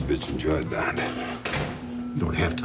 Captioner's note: door closes